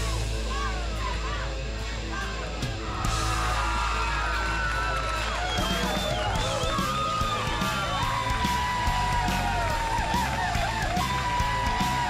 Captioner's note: crowd cheering